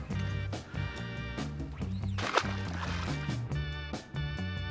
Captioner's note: splash